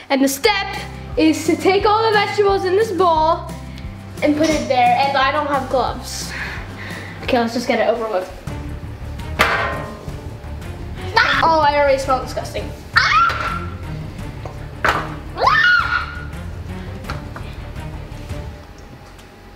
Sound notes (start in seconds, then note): 8.4 tense music; 8.4 vegetable clanking; 12.9 screaming; 12.9 tense music; 15.4 screaming